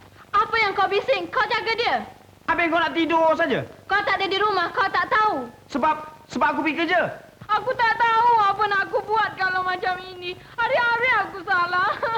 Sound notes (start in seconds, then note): 0.2 wife responds angrily in Malay; 2.3 speaks Malay; 11.5 crying